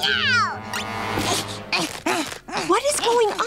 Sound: grunting

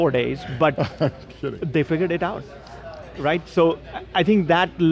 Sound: laughing

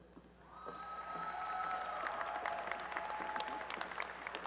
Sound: applause and cheering

